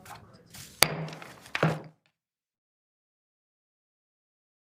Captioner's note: gavel banging